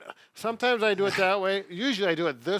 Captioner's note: laughs